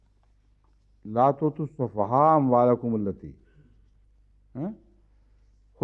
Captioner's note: Arabic